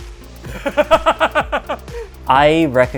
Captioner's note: laughs